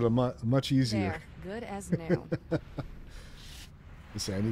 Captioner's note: laughs